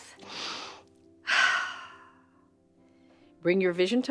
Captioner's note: exhaling; inhaling